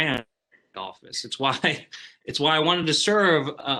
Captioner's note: chuckles